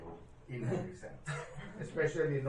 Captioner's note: laughter